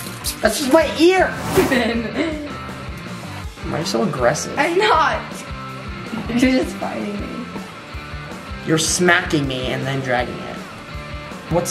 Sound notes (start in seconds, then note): 1.6 laughter